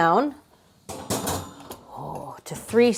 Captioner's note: pan clunking